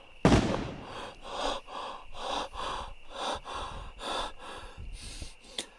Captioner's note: Keith hyperventilating